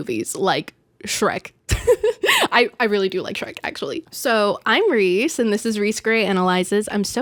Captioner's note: giggle